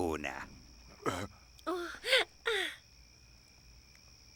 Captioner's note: gasps